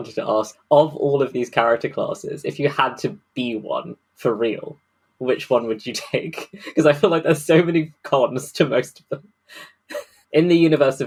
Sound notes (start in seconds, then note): 5.9 laughing